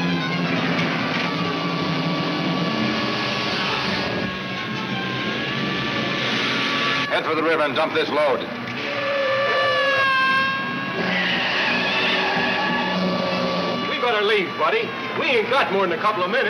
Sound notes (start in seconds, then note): 8.9 tires screech